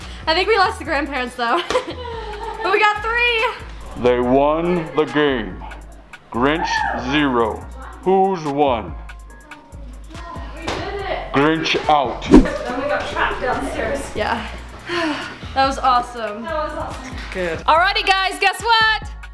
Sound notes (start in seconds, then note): 14.9 mom sighs